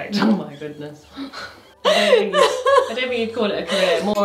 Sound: laughing

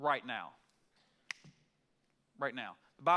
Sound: fingers snap

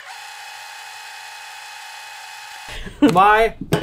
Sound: tape fast forwarding

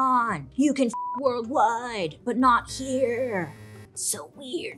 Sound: beep

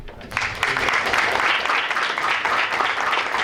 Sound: applause

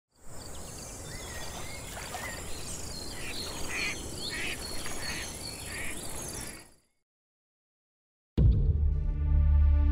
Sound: birds Chirping

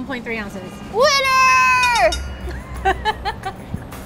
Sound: bell rings; laughing

